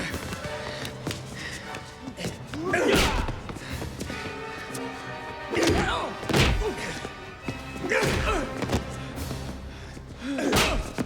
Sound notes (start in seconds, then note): 0.8 Dalton grunts; 0.8 blows thudding; 4.5 tense music; 5.5 blows thudding; 6.0 Dalton grunts; 7.8 Dalton and Gammon grunting